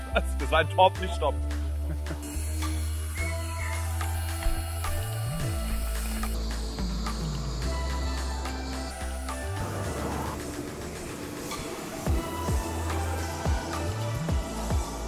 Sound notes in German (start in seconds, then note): 1.8 kichern